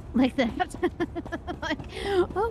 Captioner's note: laughter